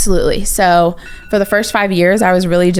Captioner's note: rings